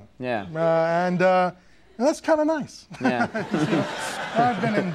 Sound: laughs

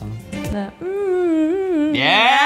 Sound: humming

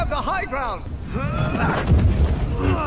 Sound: Anakin Grunts

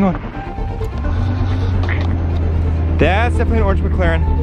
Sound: car engine revs

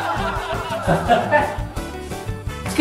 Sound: laugh

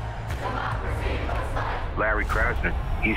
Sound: crowd

